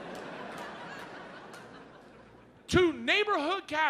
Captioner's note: audience laughs